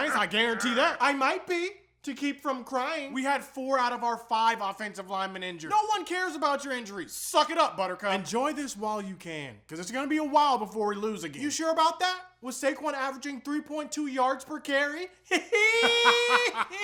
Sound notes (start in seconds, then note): 15.3 laughing; 15.3 weirder laughing